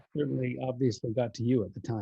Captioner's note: none